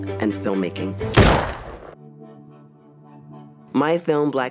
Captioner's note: gun bangs